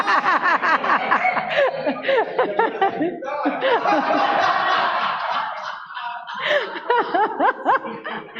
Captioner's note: laughter